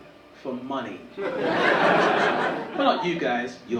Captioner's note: audience laughing